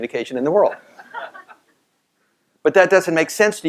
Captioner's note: laugh